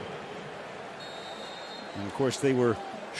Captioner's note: whistles